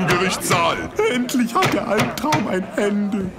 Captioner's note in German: wimmernd